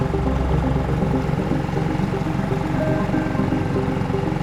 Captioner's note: engine rumbling